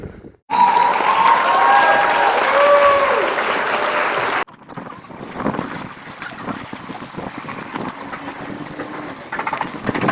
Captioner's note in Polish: Aplauz